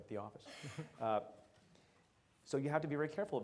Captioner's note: laughs